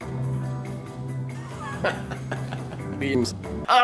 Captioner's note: laugh; wheeze